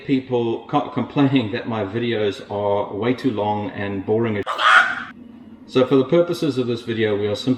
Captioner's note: chicken squawking